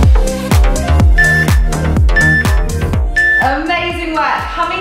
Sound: timer beeps

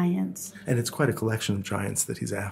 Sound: voiceover

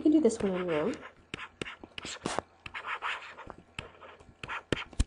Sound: scribbling

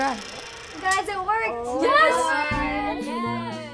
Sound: all exclaiming and cheering

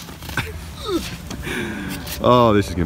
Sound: laughs

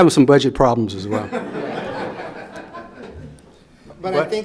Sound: everyone laughs

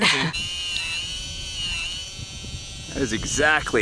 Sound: laughs; motor buzzing

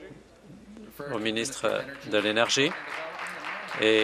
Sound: some Applause

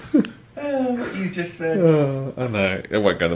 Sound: sighs; laughs; laughing

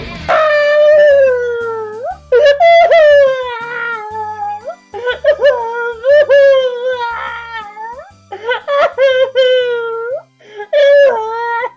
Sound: crying

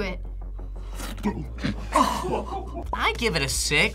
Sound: slurps; group laughs

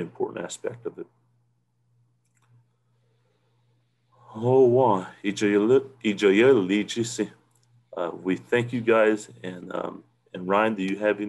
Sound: native language 00:58:25

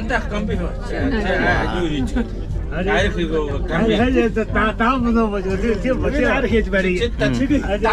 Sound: man speaks mongolian

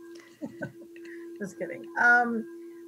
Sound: chuckling

